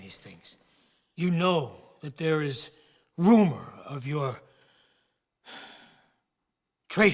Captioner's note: sighs